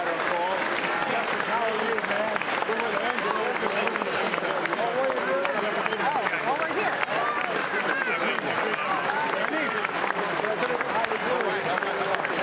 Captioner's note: applause